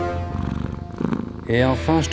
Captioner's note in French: Grognement